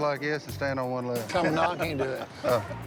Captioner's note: laughs